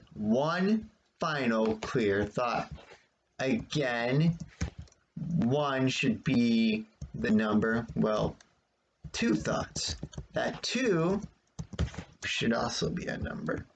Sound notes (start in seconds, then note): 3.8 tapping of the keyboard